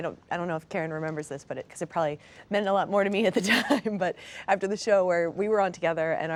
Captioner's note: laughs